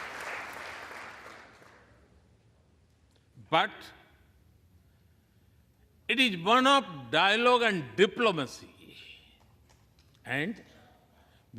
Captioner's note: applause